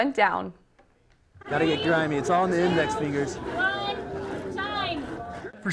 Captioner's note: people talking